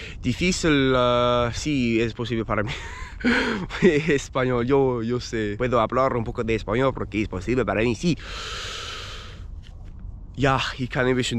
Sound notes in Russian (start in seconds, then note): 2.6 смех